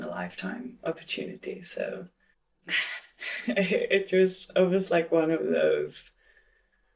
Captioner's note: chuckles